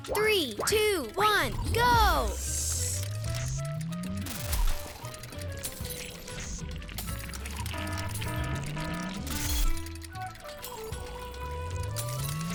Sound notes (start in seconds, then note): 2.9 playful music; 6.6 glass shattering